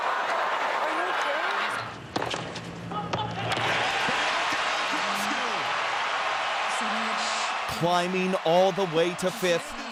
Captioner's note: cheers and Applause